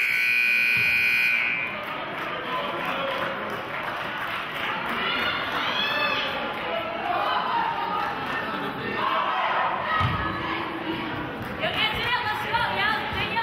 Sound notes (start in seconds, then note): 0.0 buzzer honks; 0.1 clapping; 5.3 players hollering